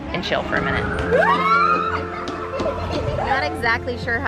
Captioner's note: kids exclaim